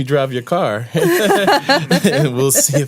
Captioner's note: laughter